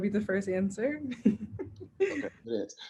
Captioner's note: laughs